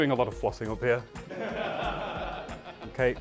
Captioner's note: laughter